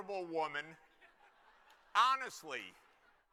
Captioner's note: laughter